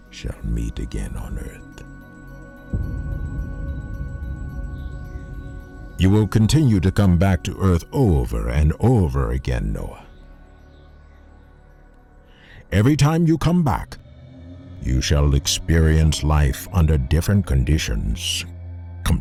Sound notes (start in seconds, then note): 3.2 bells chiming